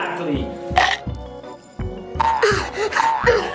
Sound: teeth chomping

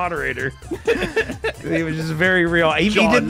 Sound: laughs

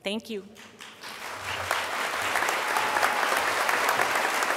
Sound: crowd applause

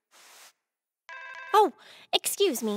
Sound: cell phone ringing

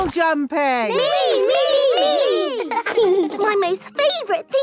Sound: laughing

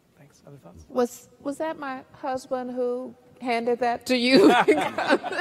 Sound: all laugh

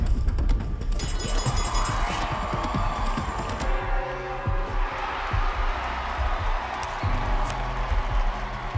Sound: audience cheering

